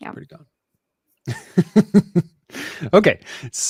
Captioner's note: laughs